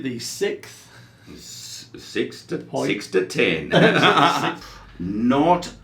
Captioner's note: both laughing